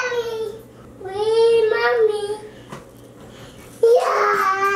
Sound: screeches

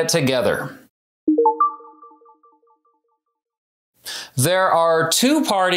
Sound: information chiming

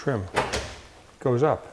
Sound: door clicking

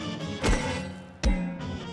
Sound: clanging

